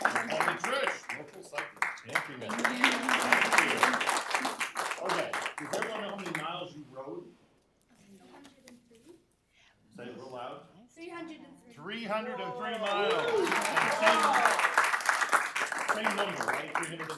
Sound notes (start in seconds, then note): 0.0 cheering and applause; 3.7 applause